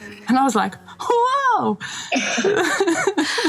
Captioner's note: laughing